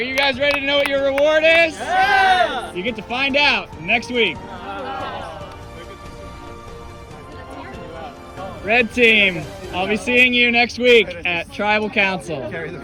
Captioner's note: awww